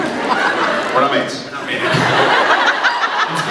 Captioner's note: laughs